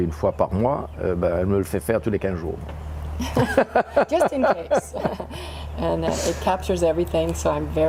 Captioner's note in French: rires